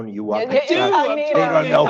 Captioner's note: laughter